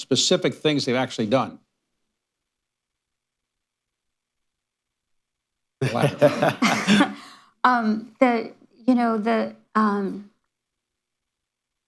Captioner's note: laughter